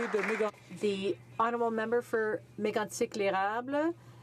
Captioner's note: some Applause